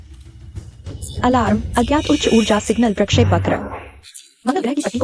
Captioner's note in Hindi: अलार्म